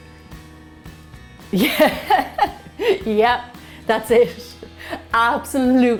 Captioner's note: laughs